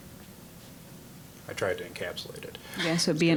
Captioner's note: laughing